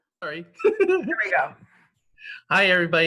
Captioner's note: laugh